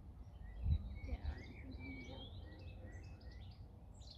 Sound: birds singing

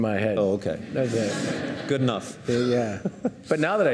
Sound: audience laughing

